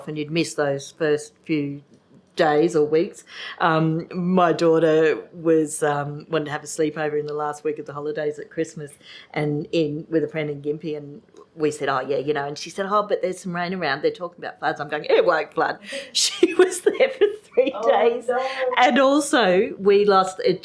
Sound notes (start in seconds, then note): 17.1 laughs